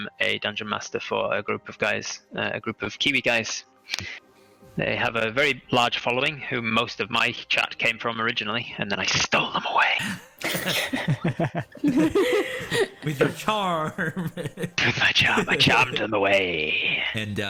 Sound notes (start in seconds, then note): 10.4 conspiratorial giggles; 14.3 laughs